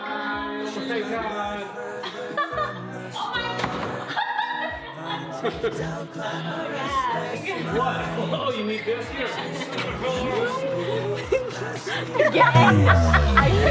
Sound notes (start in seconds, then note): 4.3 laughter; 10.0 laughter, chatter